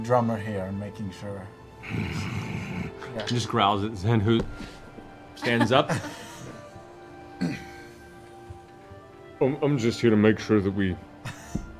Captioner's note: growls